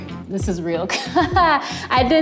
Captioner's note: laughs